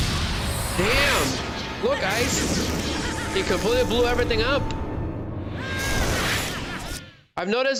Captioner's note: screaming